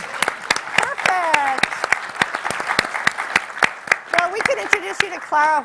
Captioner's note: clapping